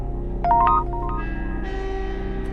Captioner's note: dark music; text sound